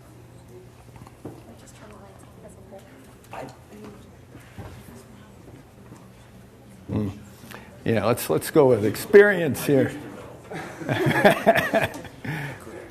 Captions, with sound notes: [students chattering] Yeah. Let's- Let's go with experience here. [laughing]